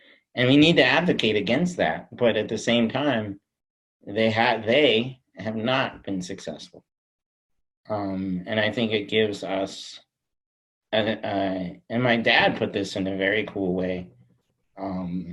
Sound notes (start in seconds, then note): none